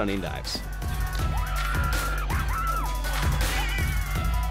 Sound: screaming

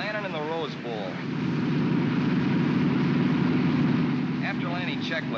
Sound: aircraft rumbles

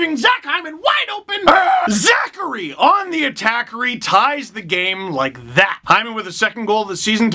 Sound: puck growl

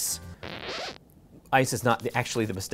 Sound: record scratching

